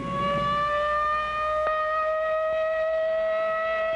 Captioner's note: loud siren